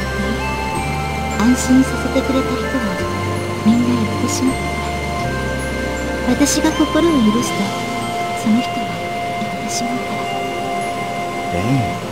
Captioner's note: rain